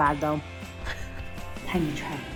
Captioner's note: laughing